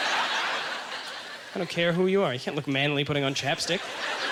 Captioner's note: audience laughter